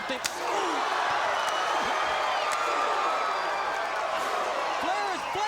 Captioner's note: Jim Ross exclaims